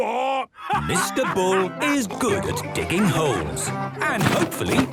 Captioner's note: laughing